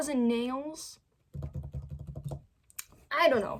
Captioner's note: fingers tapping on table; mouth pop